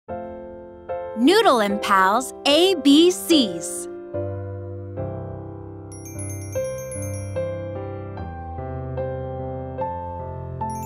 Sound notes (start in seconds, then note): 0.1 light music; 5.9 bell chiming